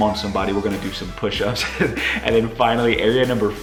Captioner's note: laughing